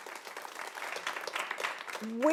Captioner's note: audience applauds